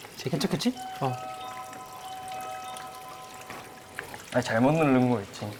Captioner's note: suddenly, the doorbell rings